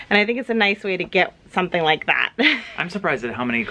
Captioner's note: chuckles